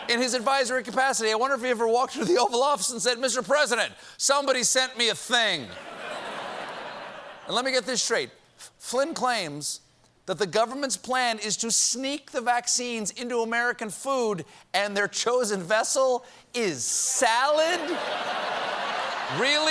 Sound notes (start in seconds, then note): 17.7 laughter